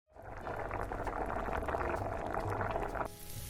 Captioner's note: boiling sound; sizzling sound